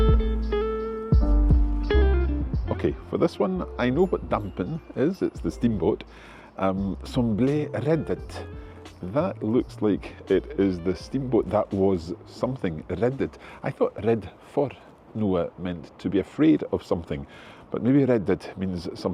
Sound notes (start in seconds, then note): 7.6 speaking in Norwegian